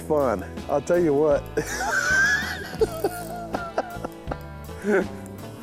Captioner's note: laughs